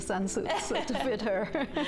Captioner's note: both laugh